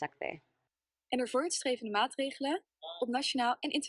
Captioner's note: speaking dutch